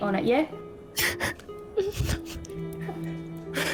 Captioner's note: laughs